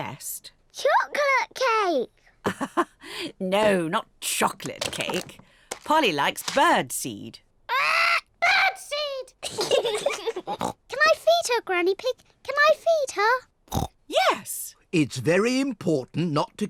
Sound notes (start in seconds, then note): 0.2 laughs; 7.4 both laugh